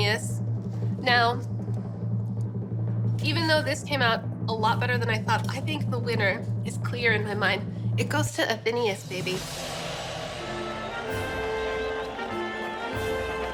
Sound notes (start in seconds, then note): 9.4 triumphant music; 10.4 applause sound effect